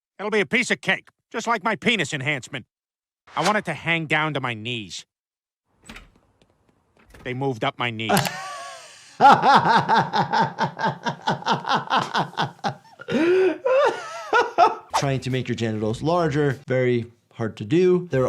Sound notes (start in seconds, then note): 8.1 laughing